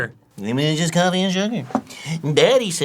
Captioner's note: mocking